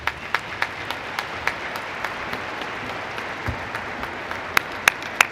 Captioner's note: applause